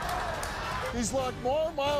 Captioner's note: laughs